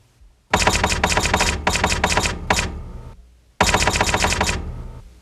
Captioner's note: typing tone continues